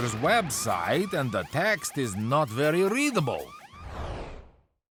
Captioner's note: alarm wailing